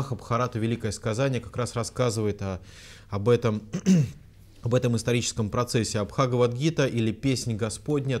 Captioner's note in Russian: откашлялся